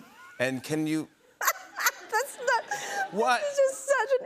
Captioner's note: laughs